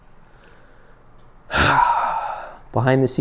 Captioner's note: sighs